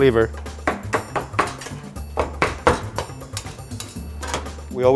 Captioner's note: banging sound